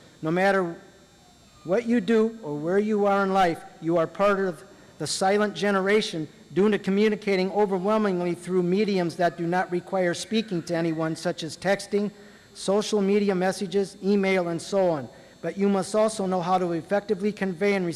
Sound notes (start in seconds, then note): none